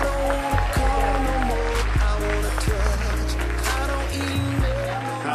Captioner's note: applause